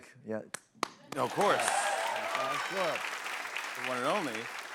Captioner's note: cheers and applause